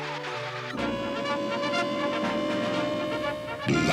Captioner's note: sirens